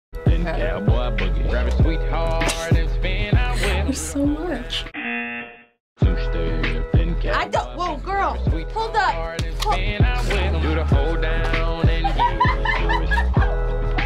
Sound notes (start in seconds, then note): 2.7 chuckles; 5.0 buzzer; 11.9 laughs